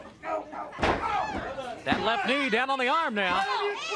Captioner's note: crowd cheering